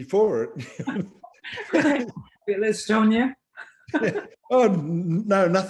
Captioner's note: laughter